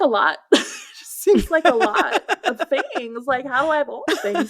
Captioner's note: laughter